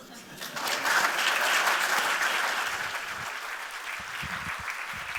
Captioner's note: applause